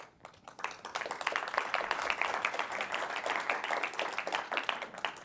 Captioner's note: applause